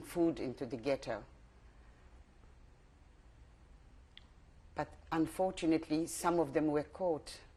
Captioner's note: pauses for 3 seconds